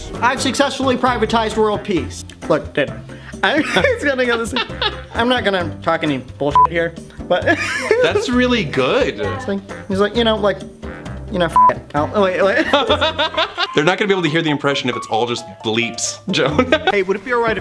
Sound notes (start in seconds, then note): 3.0 wheeze; 3.3 laughs; 7.4 wheeze; 12.4 laughs